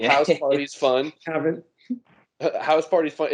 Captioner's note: giggles